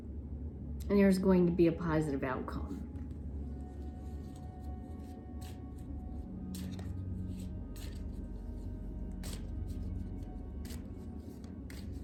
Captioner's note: cards shuffling